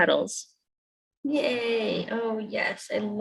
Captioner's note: mimics celebration